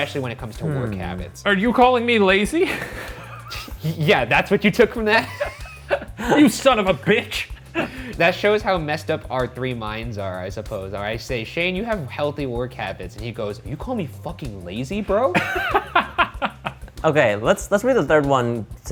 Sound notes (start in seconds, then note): 2.6 laughs; 15.4 all laugh